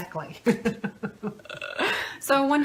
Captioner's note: laughs